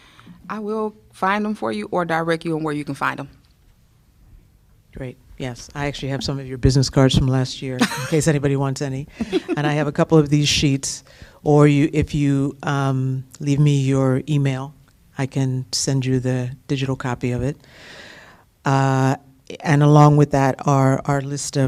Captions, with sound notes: I will find them for you or direct you on where you can find them. Great. I actually have some of your business cards from last year [LAUGHTER] in case anybody wants any, and I have a couple of these sheets, or you if you leave me your email, I can send you the digital copy of it. Along with that, our list